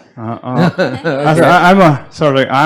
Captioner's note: laughs